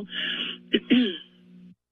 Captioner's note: clears throat